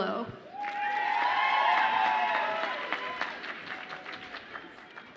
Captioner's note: audience applauds and cheers